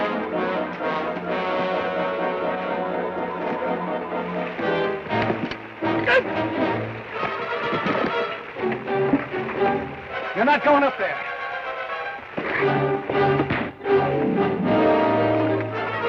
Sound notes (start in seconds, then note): 6.2 Ben grunts; 13.4 thud